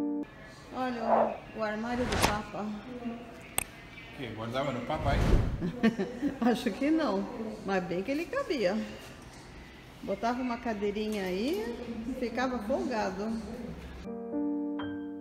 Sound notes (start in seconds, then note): 5.6 laughs